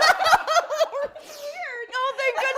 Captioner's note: all participants laughing